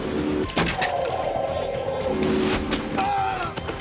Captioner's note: arrow swishes; thwacks; cries out